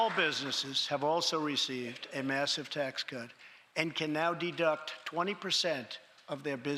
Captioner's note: cheers and applause